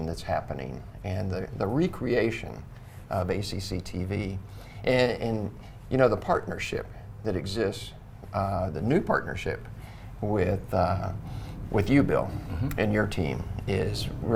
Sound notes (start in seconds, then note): none